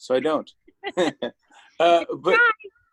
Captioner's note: laughter